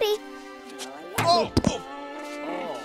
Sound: grunts

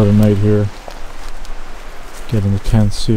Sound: water flowing

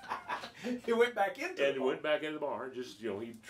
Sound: laughing

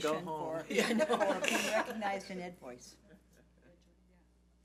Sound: laughing

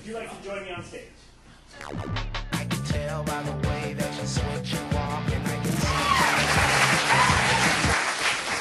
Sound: audience applauding

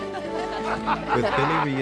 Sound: laughter

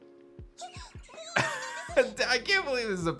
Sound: chuckles

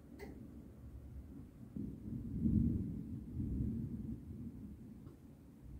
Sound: quiet thunder

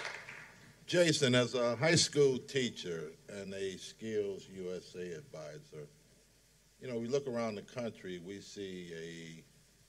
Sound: applause

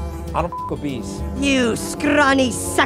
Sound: buzzing; beep

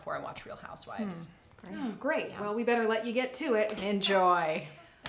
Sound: Sarcastic

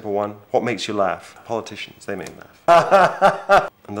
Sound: laughs

